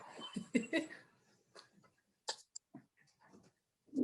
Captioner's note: laughs